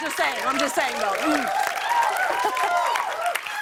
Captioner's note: cheers and applause